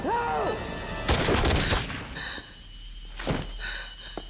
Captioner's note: gunshots banging; ominous music